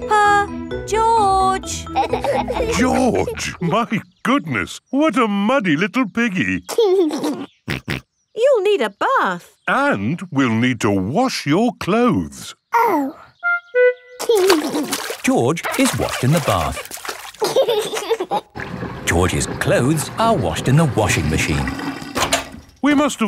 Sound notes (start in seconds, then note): 6.7 giggles and snorts; 17.3 giggling